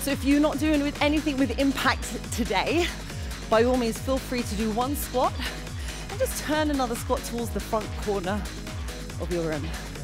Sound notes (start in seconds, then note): none